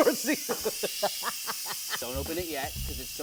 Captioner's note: laughing